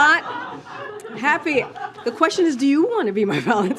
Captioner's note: laughter